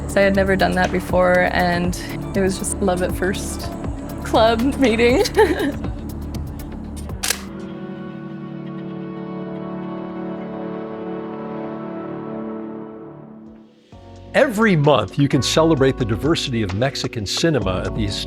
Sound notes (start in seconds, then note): 4.3 laughs; 7.2 shutter clicks